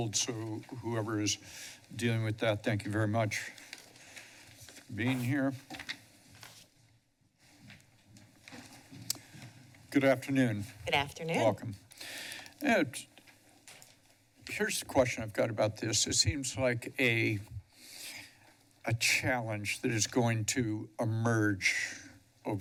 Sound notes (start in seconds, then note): 9.0 smacks lips; 12.0 inhales